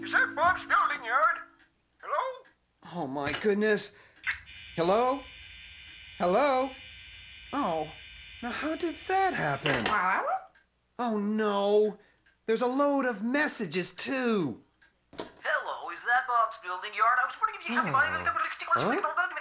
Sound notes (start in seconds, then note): 5.6 dial tone